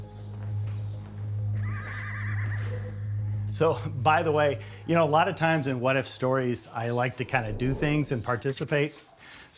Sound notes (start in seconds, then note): 1.0 uptempo synth music; 1.6 horse neighing